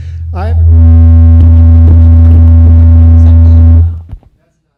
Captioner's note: microphone distortion